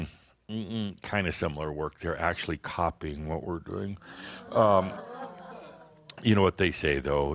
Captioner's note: audience says “Ohh!”